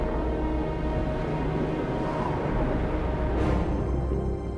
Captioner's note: howling wind